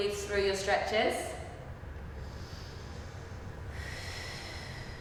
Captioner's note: breathing